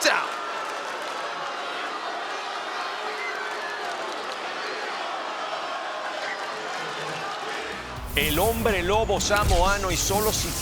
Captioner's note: applause